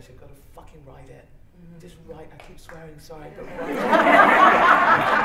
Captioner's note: laughter